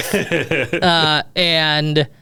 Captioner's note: laughs